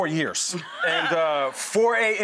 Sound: laughs

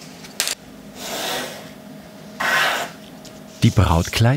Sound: scratching noises

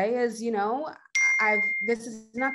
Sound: device pinging

